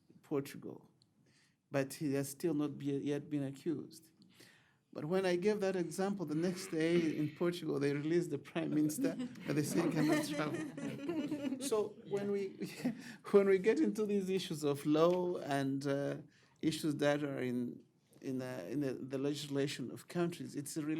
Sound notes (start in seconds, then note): 8.5 laughter